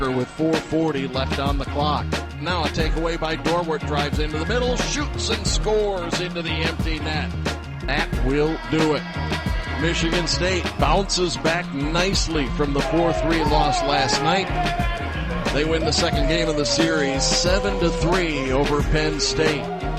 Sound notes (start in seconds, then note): 8.8 horn blasting; 13.0 players cheering